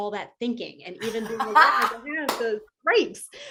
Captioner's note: laughter